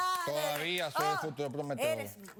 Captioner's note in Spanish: aplausos